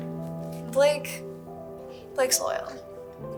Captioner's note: sighs